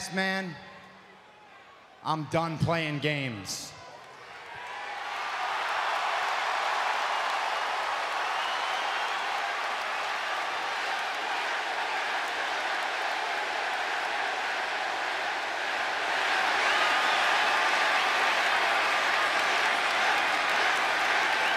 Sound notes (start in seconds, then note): 11.6 applause